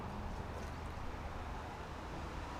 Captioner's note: none